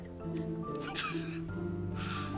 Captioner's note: chuckles